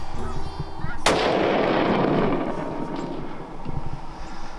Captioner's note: gun shot